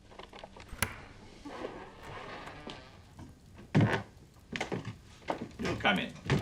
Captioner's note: door creaks